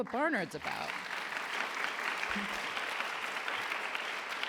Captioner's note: applause